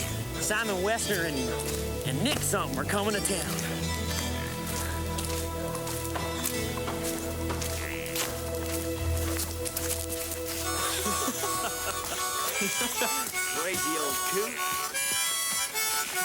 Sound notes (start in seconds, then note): 6.0 gentle music; 10.7 laughing